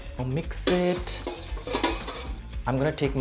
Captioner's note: scraping pot